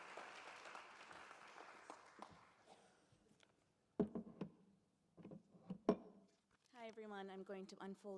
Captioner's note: applause